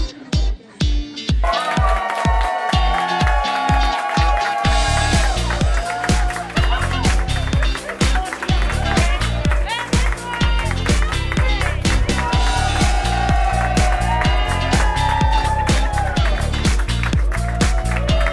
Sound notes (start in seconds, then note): 3.1 cheering and Clapping